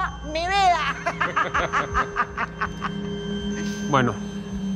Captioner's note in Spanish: Risas